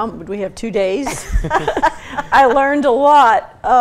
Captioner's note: laughter